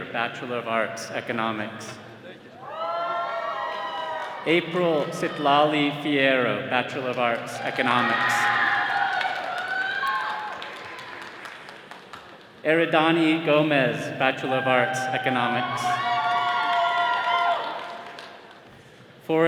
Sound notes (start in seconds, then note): 2.5 attendees cheering; 8.4 all cheering; 16.3 all cheering